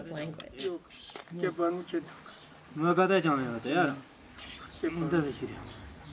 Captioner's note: men speaking Tibetic language